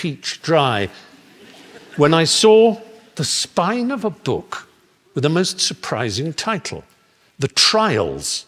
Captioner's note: laughter